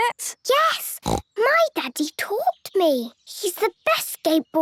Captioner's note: snorts